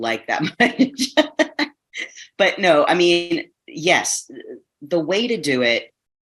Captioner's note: chuckles